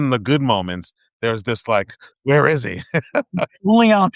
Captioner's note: laughing